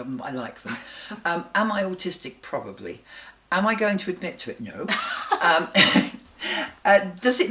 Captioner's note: they laugh